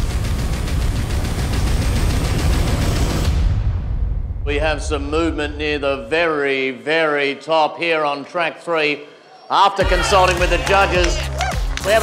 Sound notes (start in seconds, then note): 0.0 intense music; 9.2 all cheering